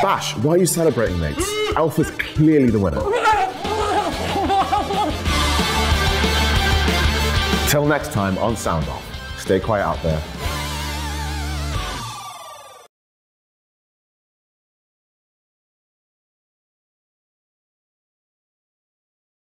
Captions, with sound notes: Bash, why are you celebrating, mate? Elf is clearly the winner. (cackling noises) Till next time on Sound Off – stay quiet out there.